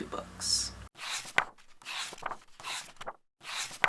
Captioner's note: pages turning